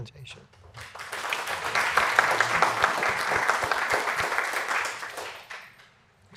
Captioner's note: applause